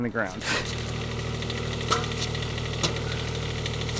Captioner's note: engine humming